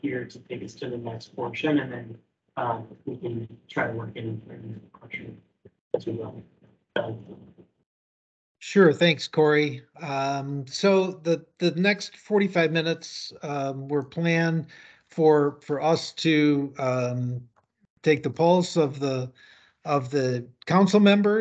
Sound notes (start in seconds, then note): 5.1 speaking faintly